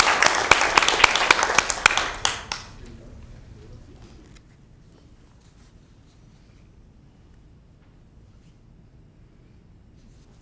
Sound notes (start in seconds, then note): 0.0 applause